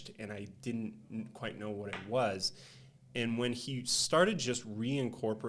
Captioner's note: none